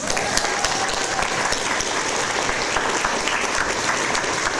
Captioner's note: audience applause